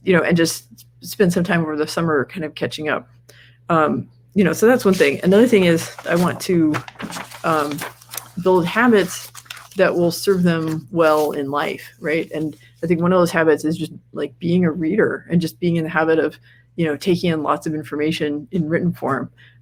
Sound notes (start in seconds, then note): 7.4 rustles papers